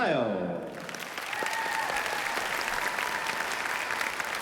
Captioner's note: cheering and applause